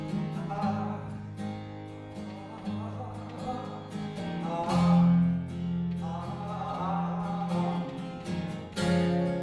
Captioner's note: humming